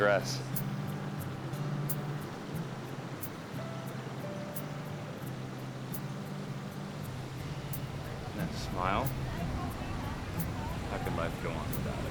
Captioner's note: man Speaks In Foreign Language